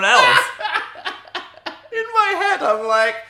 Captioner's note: Dan laughing